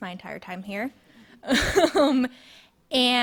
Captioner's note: speaker laughing